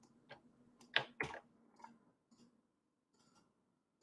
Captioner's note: keyboard clacking